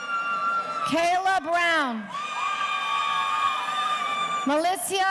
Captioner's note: audience cheering